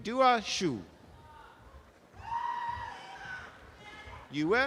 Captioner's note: audience applause